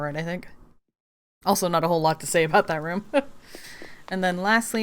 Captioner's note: laughs